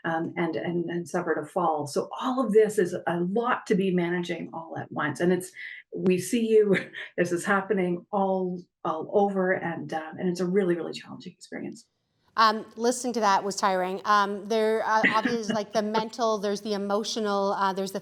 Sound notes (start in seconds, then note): 14.9 laughs